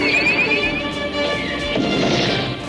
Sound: gentle suspense music; Skywarp whirring; rocket whooshes

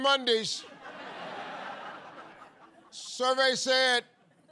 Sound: laughter

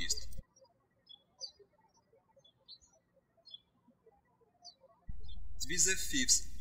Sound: birds chirping

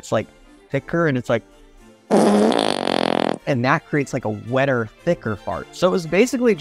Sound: fart noise

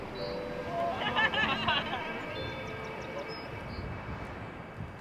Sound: soft music; people laughing

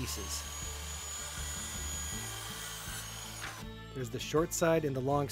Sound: machine buzzing

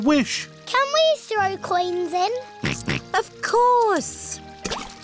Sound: snorts

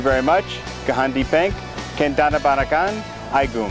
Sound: armenian

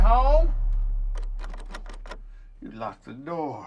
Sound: rattles doorknob

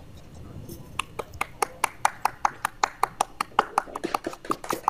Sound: applause

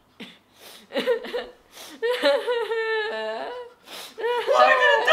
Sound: crying

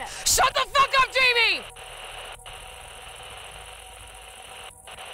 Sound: static crackling

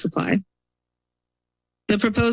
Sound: pause

